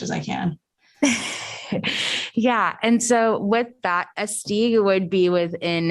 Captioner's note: laughter